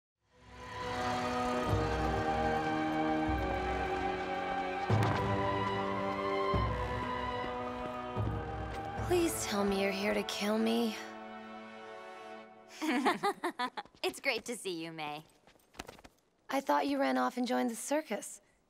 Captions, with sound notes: Please tell me you're here to kill me. [laughing] It's great to see you, Mai. I thought you ran off and joined the circus.